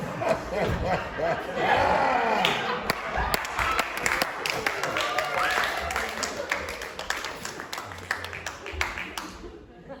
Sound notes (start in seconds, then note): 0.0 audience laughter and applause